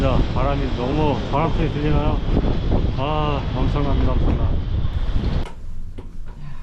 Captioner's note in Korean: 바람소리